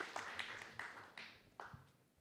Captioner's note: applause